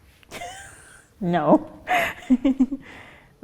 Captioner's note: laughs